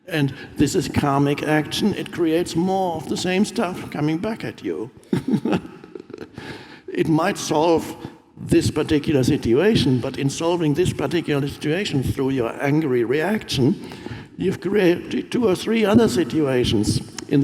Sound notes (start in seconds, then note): 5.0 Eckhart laughs